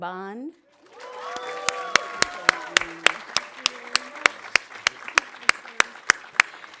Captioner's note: audience applauding; audience cheering